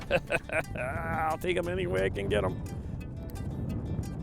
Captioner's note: laughing